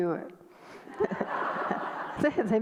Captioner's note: audience laughter